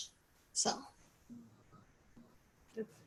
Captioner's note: chuckles